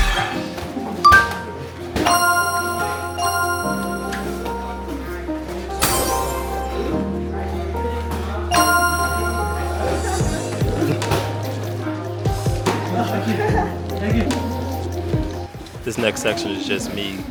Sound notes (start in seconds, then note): 0.2 clunking